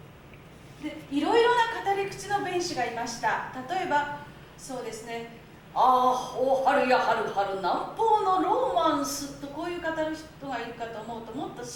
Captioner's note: speaking Japanes